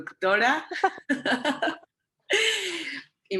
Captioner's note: laughs